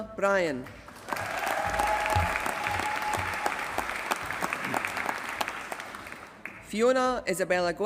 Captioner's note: applause